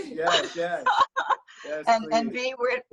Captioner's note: laughs